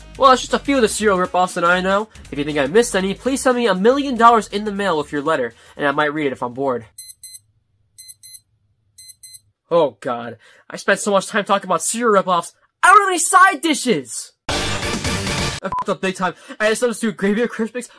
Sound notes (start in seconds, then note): 8.0 watch beeps